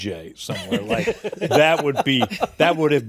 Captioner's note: laughter